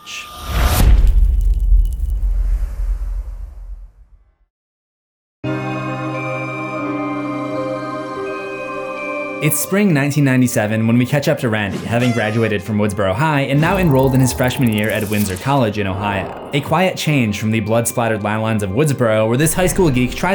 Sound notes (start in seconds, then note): 0.6 impact; 5.5 mysterious music